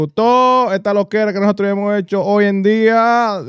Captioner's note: speaking In Foreign Language